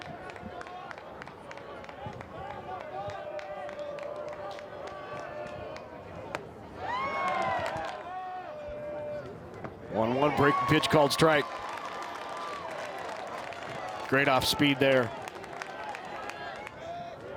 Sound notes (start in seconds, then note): 7.1 crowd cheers